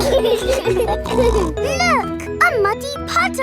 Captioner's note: laughing